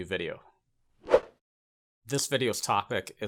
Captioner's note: graphic whooshes